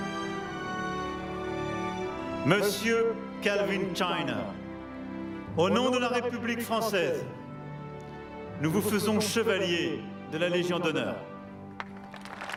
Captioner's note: speaking french